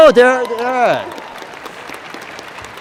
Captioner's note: applause